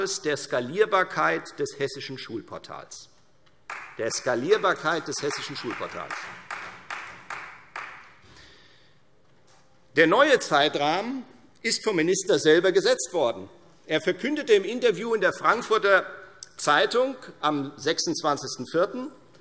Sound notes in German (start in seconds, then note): 4.5 Beifall Freie Demokraten